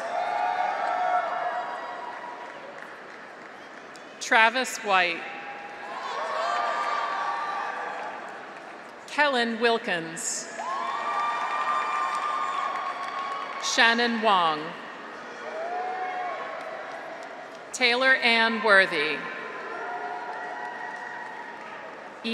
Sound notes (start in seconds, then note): 0.0 graduates cheer; 0.1 audience applauds; 5.4 graduates cheer; 6.1 audience applauds; 10.5 graduates cheer; 10.6 audience applauds; 15.0 graduates cheer; 15.5 audience applauds; 18.5 graduates cheer; 19.6 audience applauds